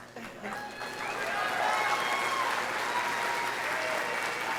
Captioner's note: audience cheering